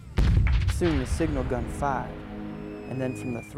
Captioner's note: voiceover